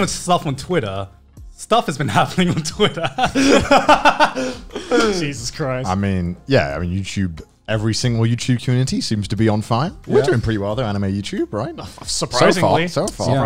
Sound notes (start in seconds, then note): 2.3 both laughing